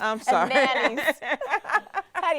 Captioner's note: laughing